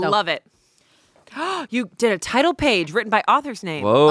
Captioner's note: gasps